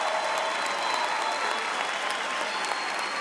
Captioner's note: applause; cheering and applause